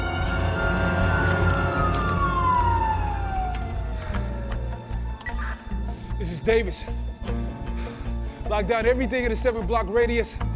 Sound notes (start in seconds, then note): 0.0 siren wailing; 5.2 radio beeps